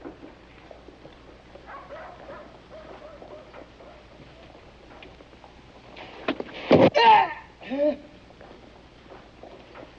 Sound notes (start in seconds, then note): 7.6 groaning